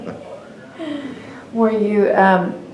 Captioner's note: laughter